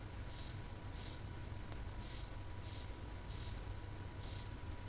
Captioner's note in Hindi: नाक से की जाने वाली आवाज़